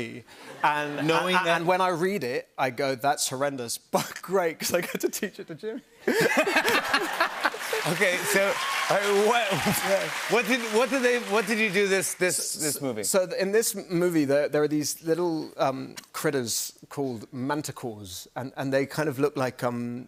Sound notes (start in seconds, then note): 6.0 laughter; 6.6 cheers and applause